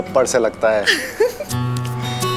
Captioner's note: Gauravi laughs